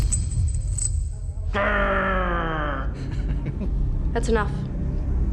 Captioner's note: laughs